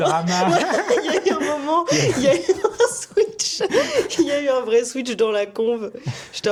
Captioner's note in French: conversation